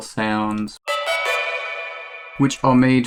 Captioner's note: tubular bell sounds